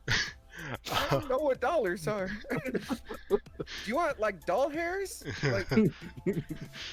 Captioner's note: laughter; laughter